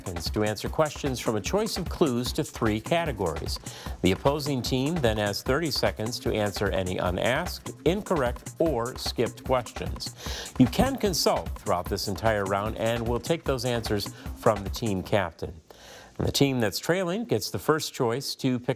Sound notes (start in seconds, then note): none